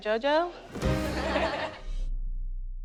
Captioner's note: laughter